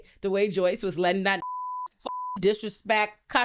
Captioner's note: beep